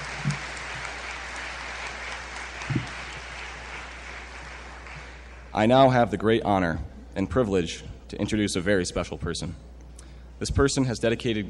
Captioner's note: applause